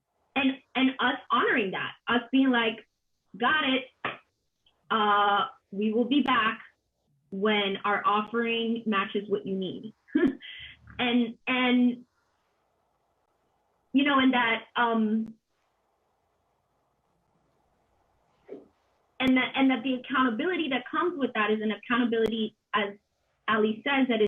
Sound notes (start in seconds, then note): 14.7 a pause